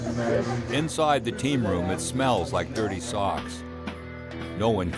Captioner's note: voiceover